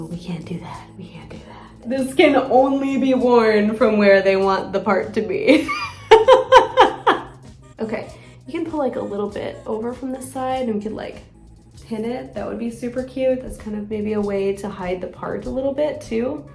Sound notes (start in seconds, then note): 5.5 laughs